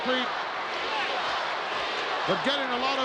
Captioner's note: crowd yelling